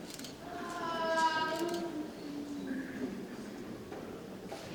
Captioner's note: camera clicks